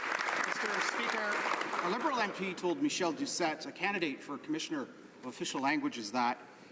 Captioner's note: some Applause